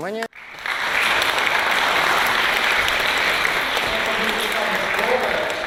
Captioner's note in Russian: Аплодисменты